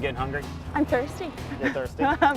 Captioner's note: laughs